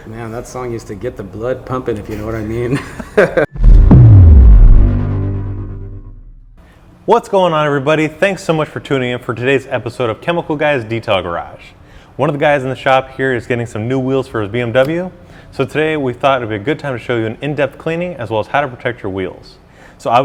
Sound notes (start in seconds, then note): 2.7 laughing; 3.5 bass guitar music